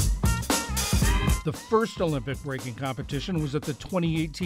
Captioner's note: voice-over